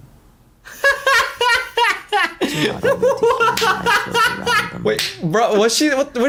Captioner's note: laughs